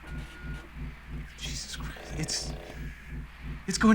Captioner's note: quietly